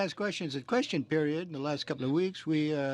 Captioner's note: speaking French